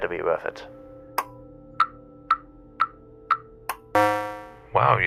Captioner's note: button pressing and flashing lights